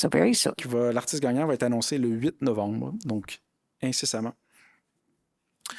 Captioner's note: speaking in French